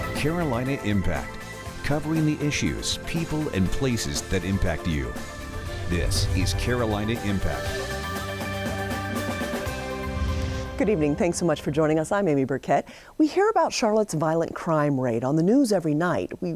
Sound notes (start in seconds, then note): 7.8 upbeat music; 9.7 air whooshing